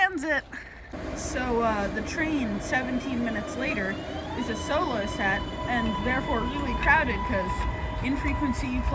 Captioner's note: train